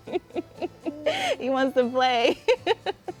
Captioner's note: laughter